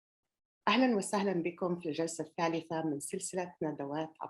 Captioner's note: speaking arabic